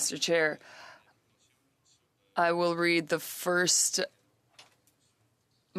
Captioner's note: speaking French